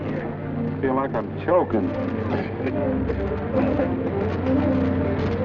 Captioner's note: coughing